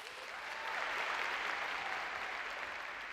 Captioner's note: audience applauds